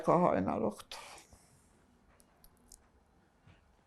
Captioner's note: pauses 11 seconds